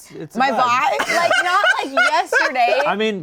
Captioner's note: Shayne laughing